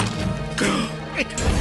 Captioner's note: gasps